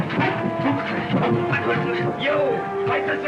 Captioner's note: cracking whip; clamouring